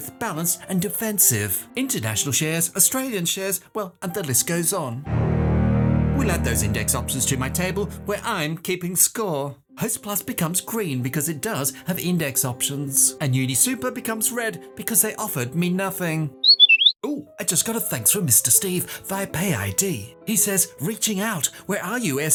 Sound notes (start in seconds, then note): 5.0 dramatic music; 16.4 whistle